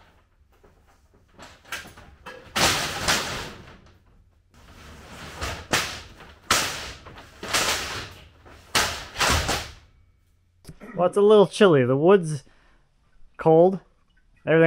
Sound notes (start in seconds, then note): 2.7 plate clanking